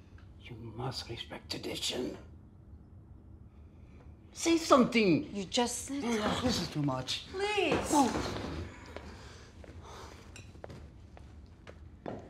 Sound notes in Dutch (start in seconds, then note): none